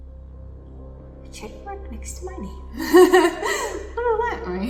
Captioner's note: laughs